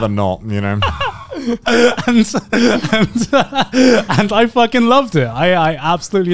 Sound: laughs

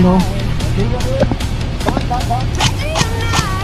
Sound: instinctively chatter

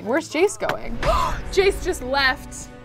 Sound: gasps

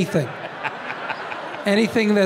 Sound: Tim and audience laughing

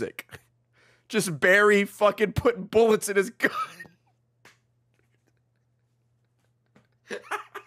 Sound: laughs

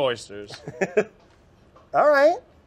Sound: laughs

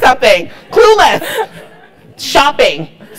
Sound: laugh

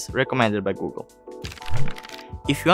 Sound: pages turning

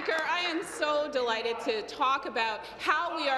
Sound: applause

